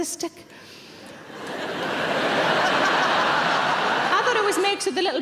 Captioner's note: audience laughing